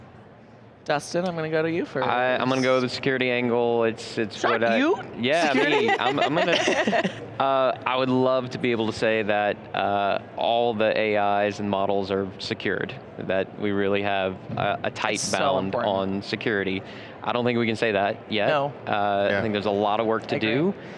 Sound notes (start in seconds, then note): 5.3 everyone laughing